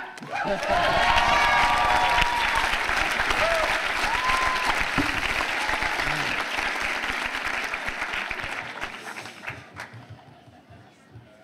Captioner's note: cheers and applause